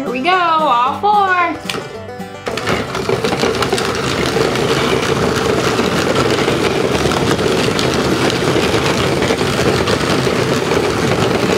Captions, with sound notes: Here we go! All four! (all the trucks rumble on the track)